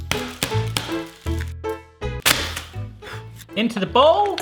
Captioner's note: banging